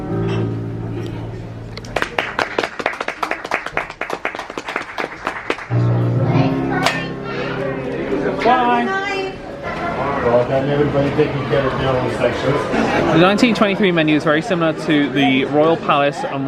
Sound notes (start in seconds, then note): 1.8 onlookers applaud; 5.8 bright music